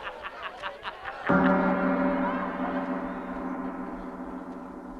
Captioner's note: gong rings